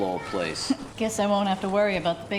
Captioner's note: chuckles